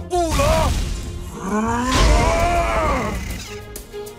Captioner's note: furious growl